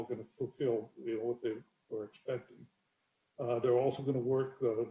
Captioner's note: murmurs